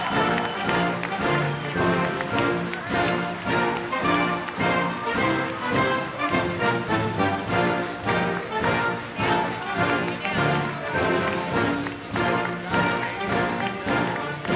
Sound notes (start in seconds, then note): 6.2 applause